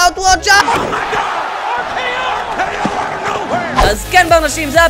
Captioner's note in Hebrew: קולות הקהל והקריין